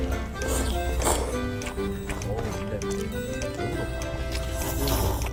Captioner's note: slurping tasty ramen